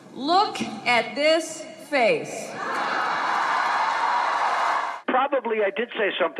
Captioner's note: cheering